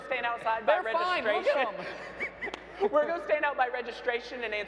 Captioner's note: laughs